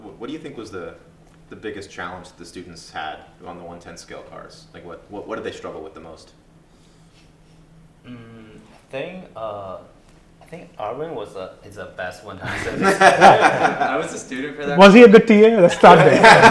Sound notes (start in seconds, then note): 12.4 laugh; 15.6 laugh